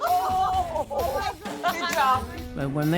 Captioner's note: laughter